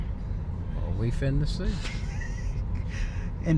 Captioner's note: laughs